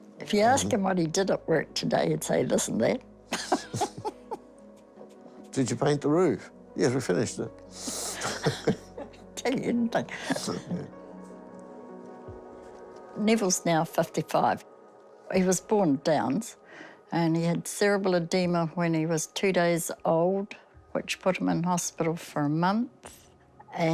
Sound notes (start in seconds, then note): 3.3 chuckles; 7.8 both laugh